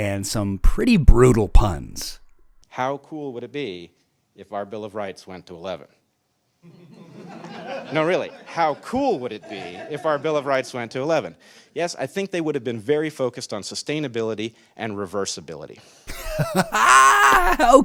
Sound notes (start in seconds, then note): 6.7 audience laughs; 10.8 audience laughs